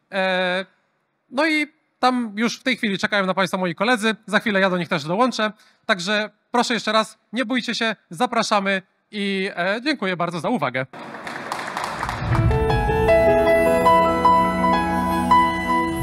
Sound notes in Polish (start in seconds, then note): 10.9 Aplauz